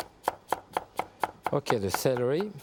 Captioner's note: knife tapping